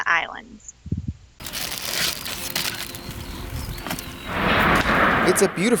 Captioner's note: package crinkling